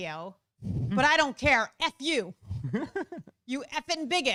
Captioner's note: laughs